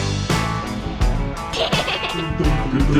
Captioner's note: child laughing